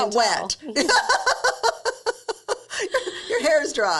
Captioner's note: laughing